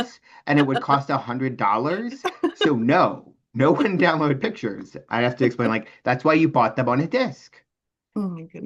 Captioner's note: hears giggling in background